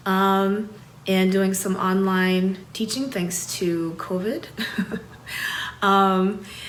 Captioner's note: laughs